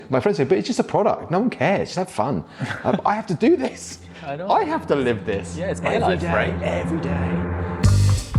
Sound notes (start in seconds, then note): 2.5 interviewer laughing